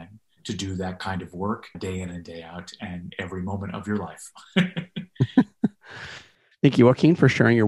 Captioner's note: laughter